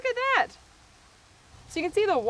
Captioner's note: potatoes sizzling